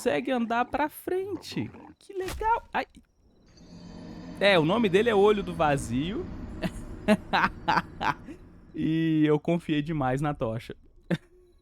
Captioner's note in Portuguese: risadas